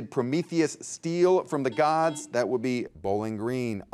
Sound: buzzer beeps

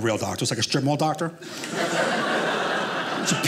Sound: audience laughing

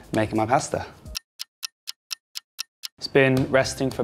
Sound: clock ticking

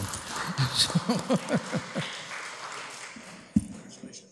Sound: applause

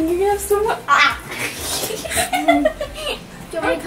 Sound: giggling

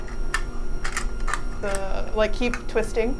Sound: machine part clattering

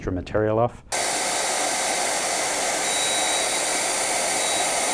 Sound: machinery whirring

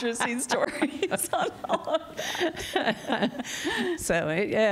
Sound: laughter

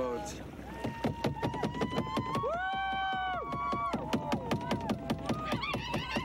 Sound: protesters cheering

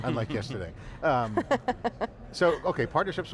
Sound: laughs

